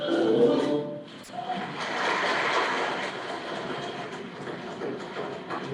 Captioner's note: applause